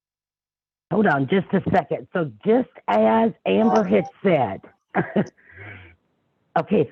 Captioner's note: laughs